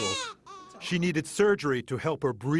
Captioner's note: crying